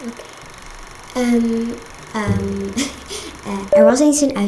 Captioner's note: lauhgs